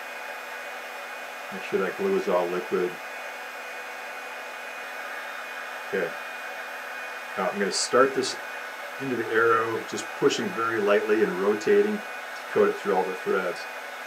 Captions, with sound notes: Make sure that glue is all liquid. [Heat Gun Blowing] Okay now I'm going to start this into the arrow just pushing very lightly and rotating to coat it through all the threads.